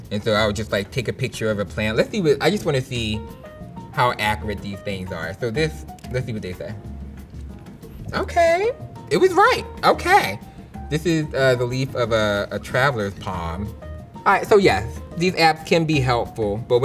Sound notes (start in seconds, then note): 5.8 camera shutters